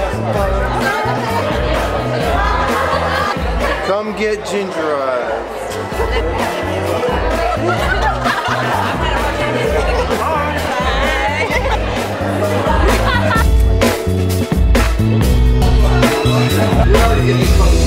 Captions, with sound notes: - Come get gingerized. (laughing) - Hi. (retro instrumental)